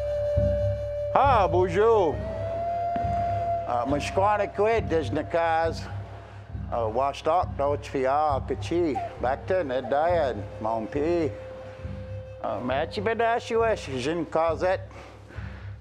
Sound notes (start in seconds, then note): 3.8 speaking Indigenous language